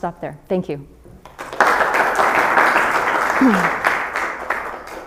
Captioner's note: applause